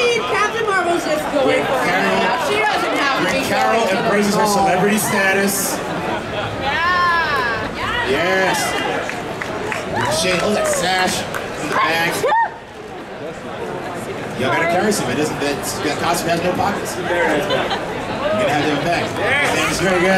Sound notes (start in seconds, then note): 2.1 audience cheering; 9.5 audience cheering